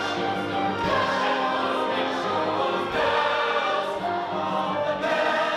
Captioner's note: bells bells bells